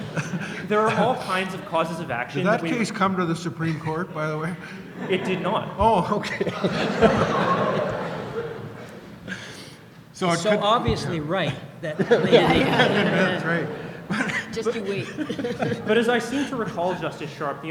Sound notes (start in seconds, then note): 6.9 laughter; 10.5 voiceover; 11.8 laughter; 14.6 voiceover